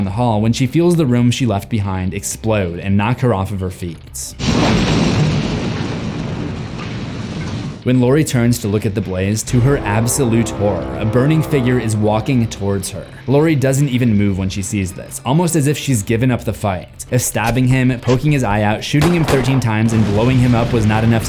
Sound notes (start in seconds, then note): 4.4 explosion